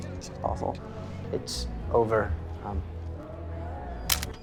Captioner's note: camera snaps